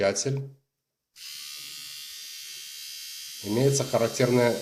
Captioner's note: mechanical sound of trimmer operation